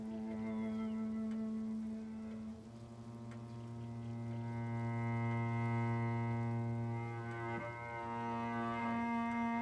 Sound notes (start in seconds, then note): 0.1 somber music; 2.2 clock ticking